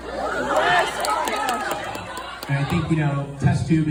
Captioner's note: audience cheers